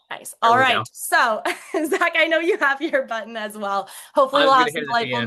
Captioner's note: laughs